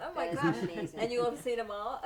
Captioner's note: chuckling